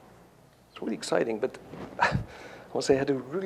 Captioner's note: scoffs